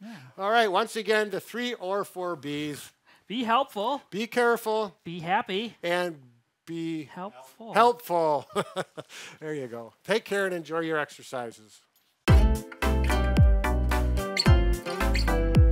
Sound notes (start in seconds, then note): 8.4 laughs; 12.2 upbeat music